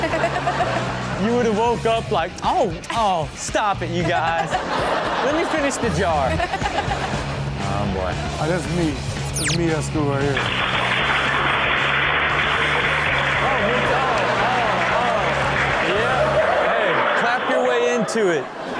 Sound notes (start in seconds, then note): 0.0 Chanel and audience laugh; 4.0 Chanel and audience laugh; 6.3 Chanel laughs; 10.6 class clapping